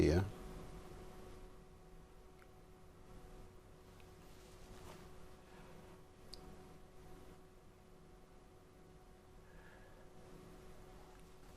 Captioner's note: silence